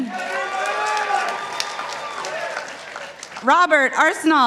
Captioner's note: participants applauding